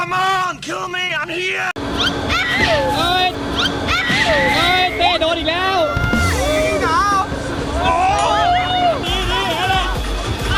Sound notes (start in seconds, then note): 2.0 screaming; 8.0 screaming from coldness